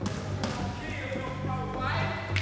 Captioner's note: shouting